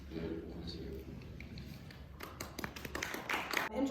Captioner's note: applause